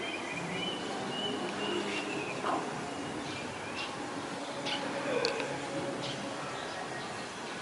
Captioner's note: birds singing